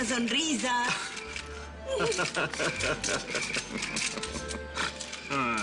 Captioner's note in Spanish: Ríe